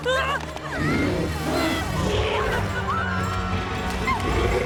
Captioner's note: growling; gasping